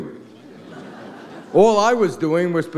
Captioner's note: audience laughs